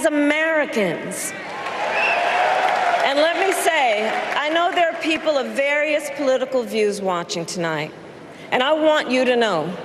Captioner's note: applause